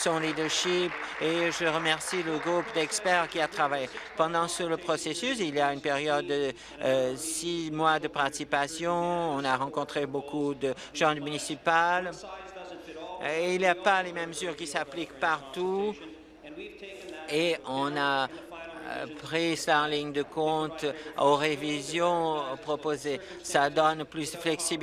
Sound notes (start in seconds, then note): 4.9 applause